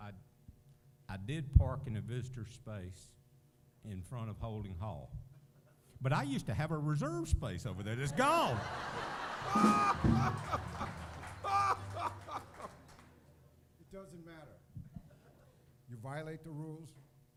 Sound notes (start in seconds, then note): 8.1 laughter